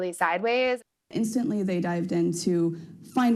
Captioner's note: soundbite of archived recording